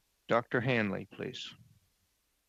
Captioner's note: speaking French